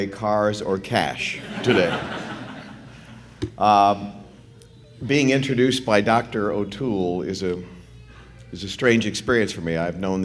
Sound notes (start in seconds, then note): 1.3 laughter